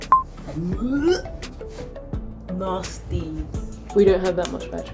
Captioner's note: gags